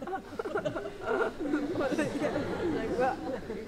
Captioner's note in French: rires